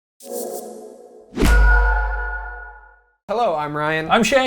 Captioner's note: schwoof KLONG